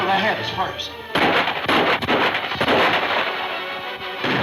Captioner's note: gunfire pops